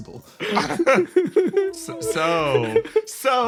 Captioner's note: laughs